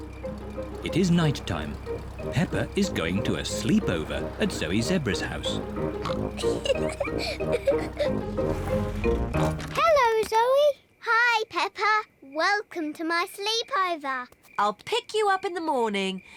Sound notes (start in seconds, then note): 5.8 oinks and giggles; 9.1 oinks